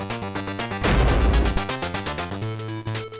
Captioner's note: thud